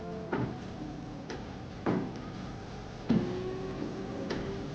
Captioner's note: footsteps clicking